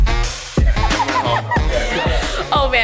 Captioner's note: laughs